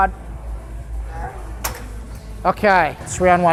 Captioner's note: grunts